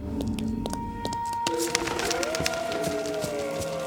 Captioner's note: animals howling